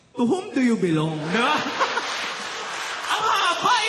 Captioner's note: laughter